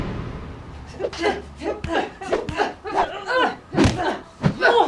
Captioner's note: both grunting